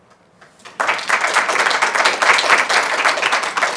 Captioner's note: applause